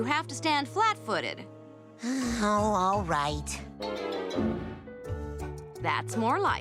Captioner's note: sighing